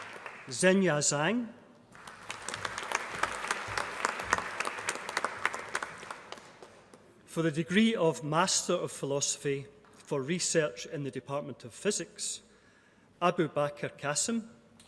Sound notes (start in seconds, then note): 0.0 applause; 1.9 applause